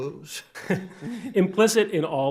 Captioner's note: chuckles